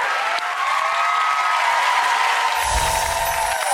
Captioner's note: cheering